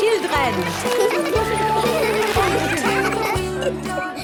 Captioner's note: laughter; giggling